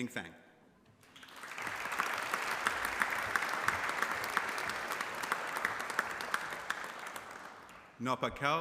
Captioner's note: applause